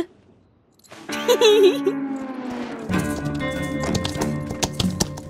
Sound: chuckles

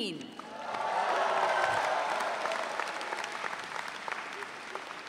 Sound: audience cheering

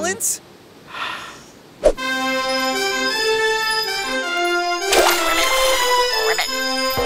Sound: blowing horn

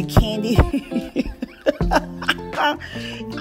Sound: laughs

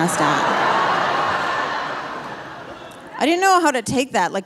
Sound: audience laughing

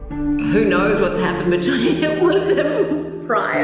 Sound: laughs in Very Hetero

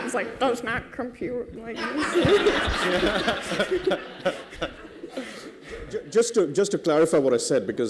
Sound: laughter

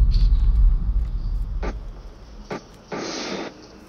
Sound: dull booming thump, spitting sound

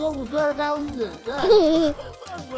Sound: giggles

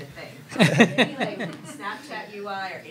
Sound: crowd laughs

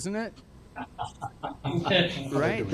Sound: laughing

